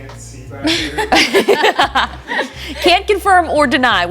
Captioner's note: laughs